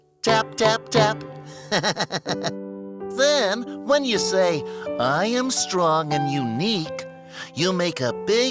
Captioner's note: laughs